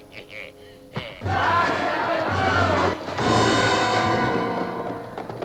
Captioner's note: screaming; anticipatory music